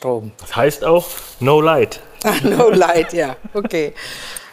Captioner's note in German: lachend